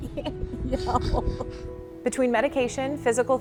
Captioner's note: laughter